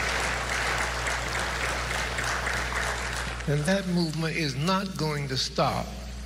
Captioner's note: applause